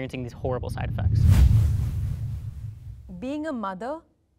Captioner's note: whooshing sound